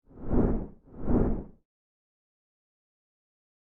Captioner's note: swooshing